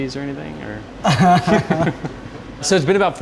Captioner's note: laughs